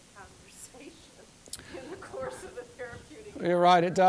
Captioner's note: chuckling